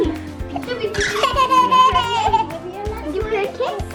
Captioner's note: laughing